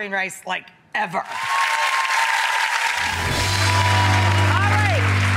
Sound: audience applauding

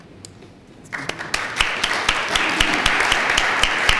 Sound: applause

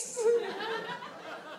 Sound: audience laughs

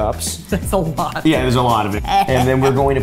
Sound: laughing; Safiya grunting

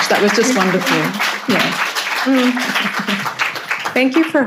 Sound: audience applauds

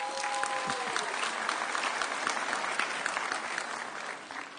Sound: audience cheering

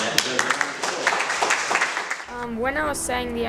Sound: applause

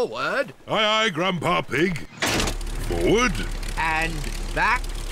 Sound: lever clunks

